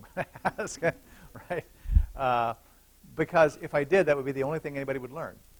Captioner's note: laughter